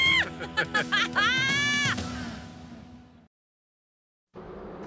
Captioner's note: both laughing